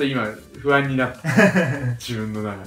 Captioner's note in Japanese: 笑い声